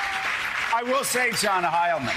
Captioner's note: cheers and applause